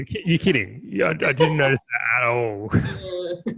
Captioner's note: sarcastically